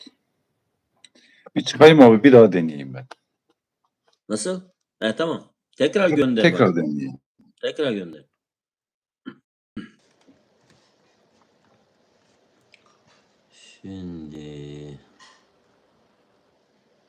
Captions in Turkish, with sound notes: Bir çıkayım abi. Bir daha deneyeyim ben. Nasıl? He tamam. Tekrar gönder. Tekrar deneyelim. Tekrar gönder. [boğazını temizler][öksürme] Şimdi